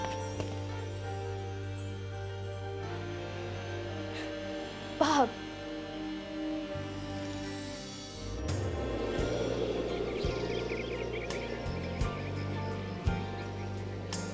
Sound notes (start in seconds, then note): 0.2 dramatic music; 8.7 birds chirp; 8.7 gentle instrumental music